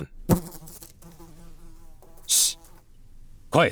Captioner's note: fly buzzing